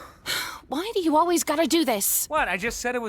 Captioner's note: sighs